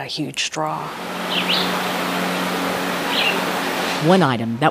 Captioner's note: birds chirping